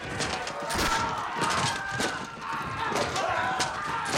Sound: Alamo soldiers screaming

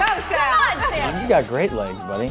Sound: applauds; laughing

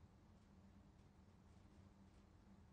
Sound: none

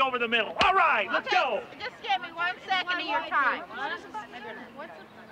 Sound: woman chattering

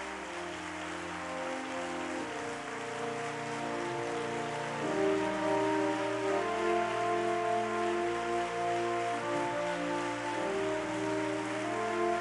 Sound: applause

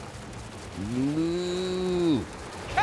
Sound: mooing

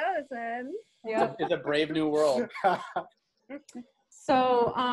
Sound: laughter

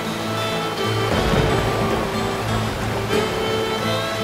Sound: thunderclap

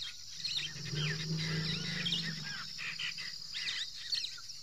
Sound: elephants growl softly

